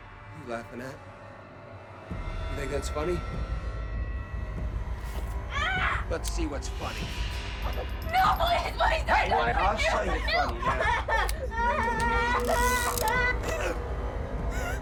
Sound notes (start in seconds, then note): 5.5 boy screams; 11.5 boy crying